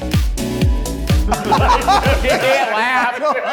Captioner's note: laughing